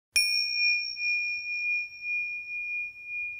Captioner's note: bell dinging